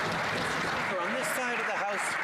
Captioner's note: some Applause